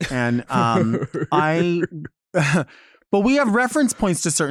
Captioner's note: chuckles